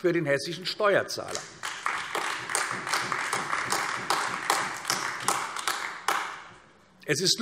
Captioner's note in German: Beifall AfD